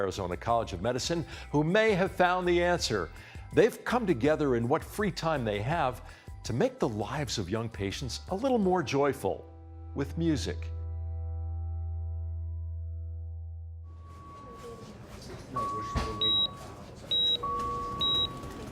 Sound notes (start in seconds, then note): 15.4 beeping